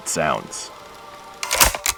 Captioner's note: tape ends